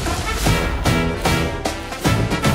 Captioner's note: lightning storm